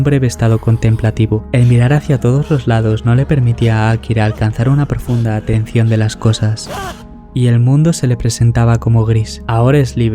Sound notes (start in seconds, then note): 6.3 stomping